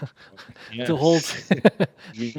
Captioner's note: laughs